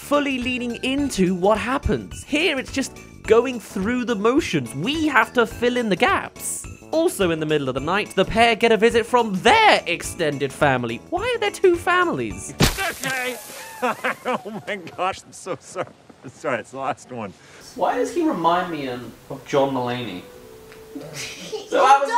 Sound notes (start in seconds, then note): 13.2 laughs